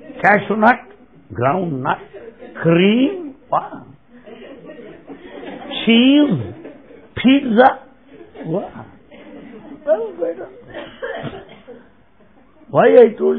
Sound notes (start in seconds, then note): 4.0 laughter